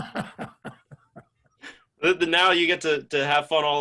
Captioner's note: laughs